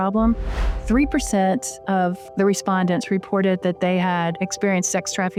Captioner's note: sound effect